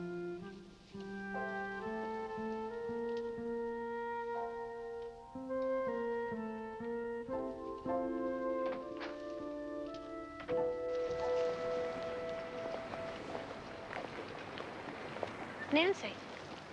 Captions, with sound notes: And, uh, I'm sorry you had to come all this way for nothing. [ Door Opens ]